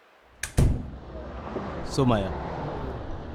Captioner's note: door close